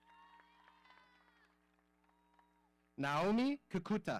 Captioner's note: audience cheering